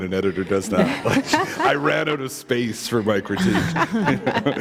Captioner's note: laughter